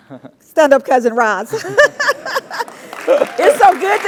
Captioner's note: laugh; applause